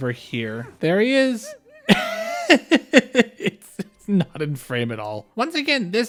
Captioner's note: laughter